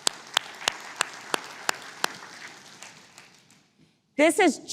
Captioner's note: applause